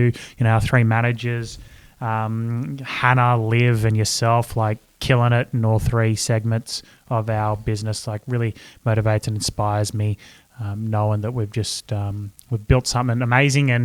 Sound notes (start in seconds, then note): none